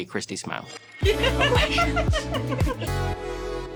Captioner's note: scattered laughter; funk music